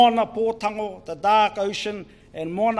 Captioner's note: speaks in foreign language